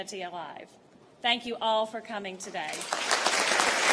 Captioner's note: applause